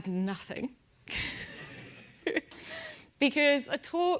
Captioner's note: laugh